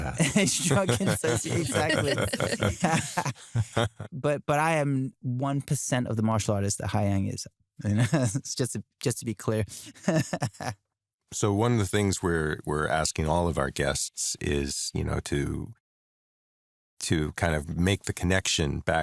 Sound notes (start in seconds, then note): 3.0 laughter; 9.7 laughs